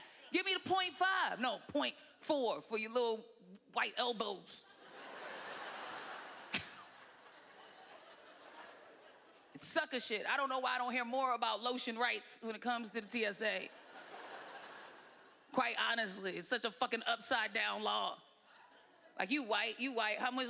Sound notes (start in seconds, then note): 4.6 laughter